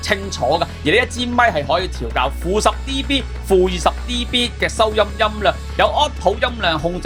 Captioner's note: attenuator